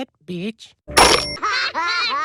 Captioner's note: Hell Phone Slams; Bart And Lisa Laughs